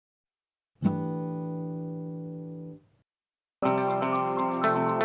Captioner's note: chime sounds; upbeat music